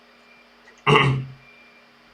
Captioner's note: kkm kkm